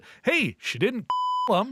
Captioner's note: beep